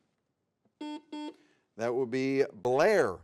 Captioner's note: buzzer beeps